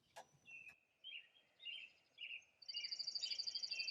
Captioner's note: birds chirping